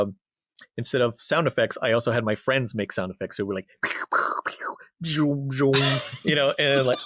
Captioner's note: sound effects